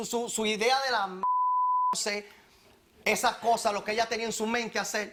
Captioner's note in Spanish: Bip